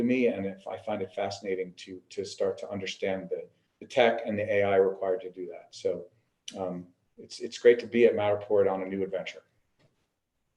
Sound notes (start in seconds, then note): none